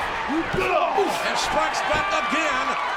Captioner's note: both grunt